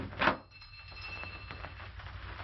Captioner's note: the doorbell rings